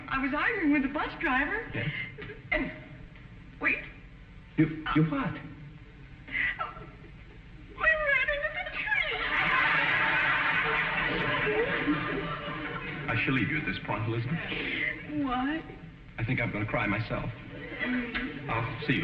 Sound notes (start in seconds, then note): 6.3 sobs; 9.0 audience laughing